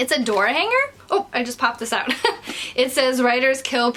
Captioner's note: chuckles